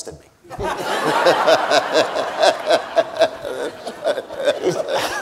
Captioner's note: Cornel and audience laughing